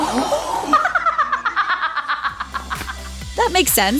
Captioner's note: cackling laugh